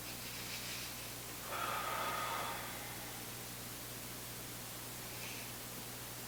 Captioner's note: breathing deeply